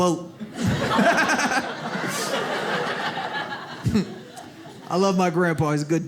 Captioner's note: audience laughs